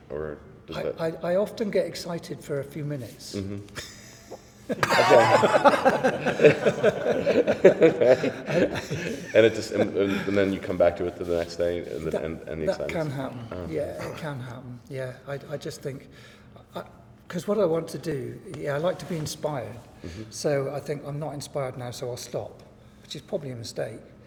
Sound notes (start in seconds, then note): 3.7 laughs